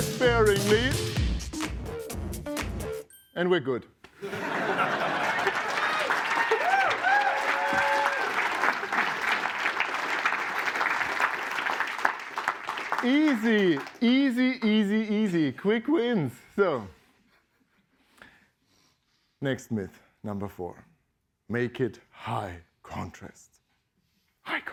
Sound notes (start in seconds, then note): 4.2 laughter; 6.0 applause